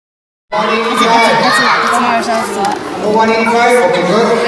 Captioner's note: excited chattering